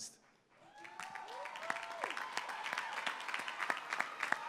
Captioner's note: applause